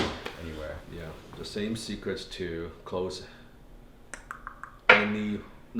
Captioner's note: tongue clicking